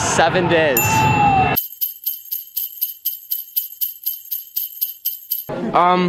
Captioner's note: bells jingling